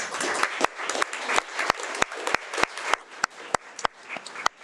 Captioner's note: audience applauding